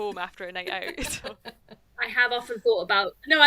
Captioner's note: laughs